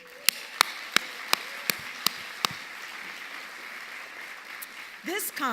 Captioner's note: audience cheering and applauding